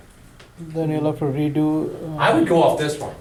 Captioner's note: voiceover